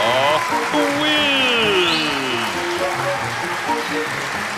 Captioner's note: applause